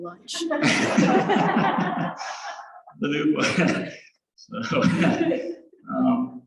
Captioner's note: laughter